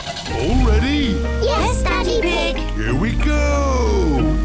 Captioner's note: honks horn